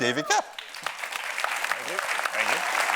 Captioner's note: audience cheers and applauds